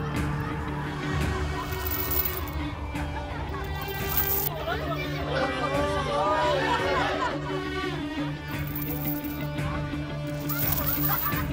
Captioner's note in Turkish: Kahkaha Atıyorlar